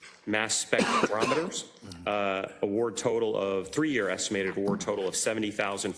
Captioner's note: cough